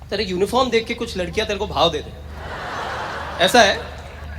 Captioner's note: audience Laughter